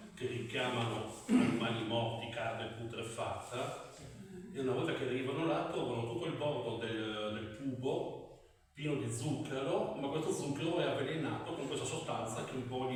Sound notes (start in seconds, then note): 1.2 clears throat